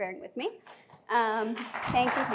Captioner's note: applause